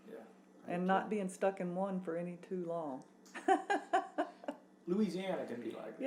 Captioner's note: laughs